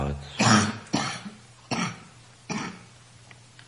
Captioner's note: coughing